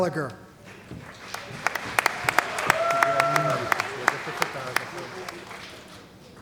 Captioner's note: cheering & Applause